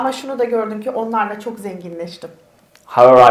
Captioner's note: speaks in Turkish